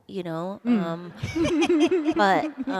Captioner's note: laughter